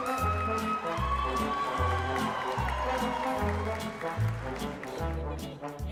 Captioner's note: applause